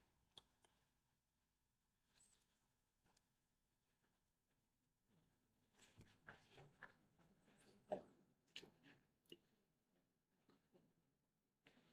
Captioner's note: silence